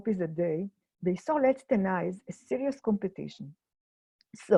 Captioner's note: in foreign language